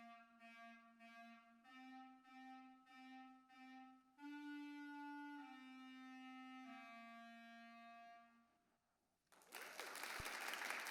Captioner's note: applause